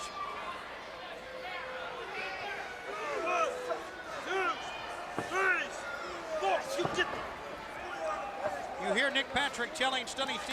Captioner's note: crowd chatter